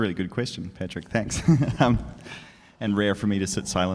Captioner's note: laughs